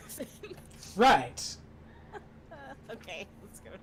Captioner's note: laughing